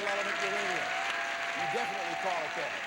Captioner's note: audience applauding